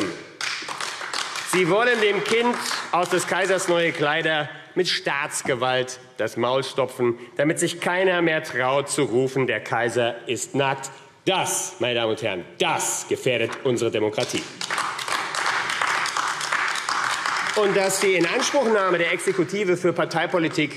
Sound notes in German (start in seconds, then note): 0.0 Beifall AfD; 14.2 Beifall AfD